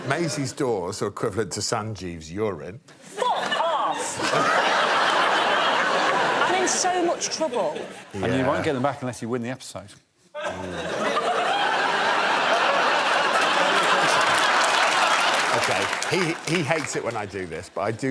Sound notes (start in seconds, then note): 3.1 laughter; 10.4 laughter